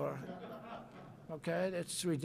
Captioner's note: laughter